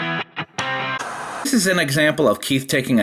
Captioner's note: upbeat rock guitar music; white noise scratching